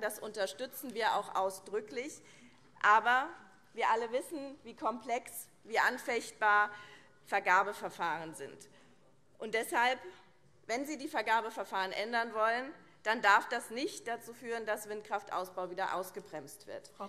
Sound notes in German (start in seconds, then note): none